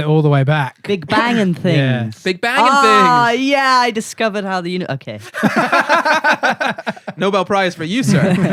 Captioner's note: laughter